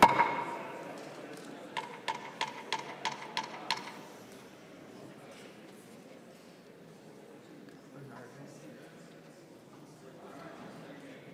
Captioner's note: gavel